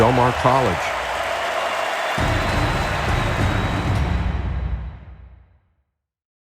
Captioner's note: crowd cheering continues